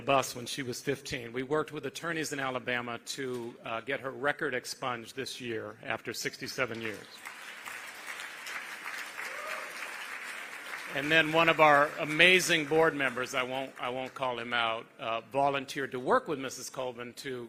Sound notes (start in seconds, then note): 14.0 applause